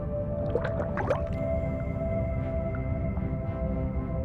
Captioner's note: water sloshes; gentle music